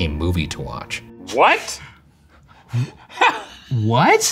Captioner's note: laughing